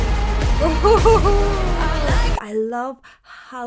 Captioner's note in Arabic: تضحك